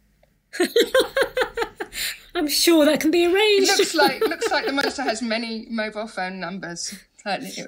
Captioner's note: laughter